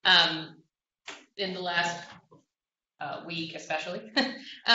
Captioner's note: laughter